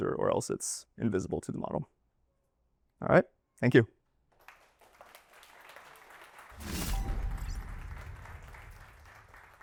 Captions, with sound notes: or else it's invisible to the model. All right, thank you. [APPLAUSE] (audience applauding)